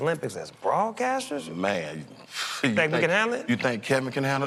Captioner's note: scoffs